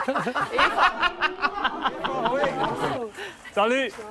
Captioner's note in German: Gelächter